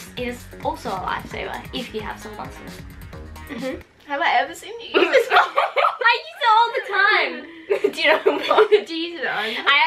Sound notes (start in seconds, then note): 4.9 laughs